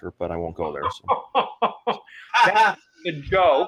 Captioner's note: laughs excitedly